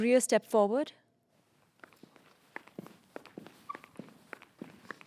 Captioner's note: footsteps tapping